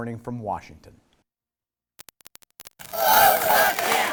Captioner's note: chanting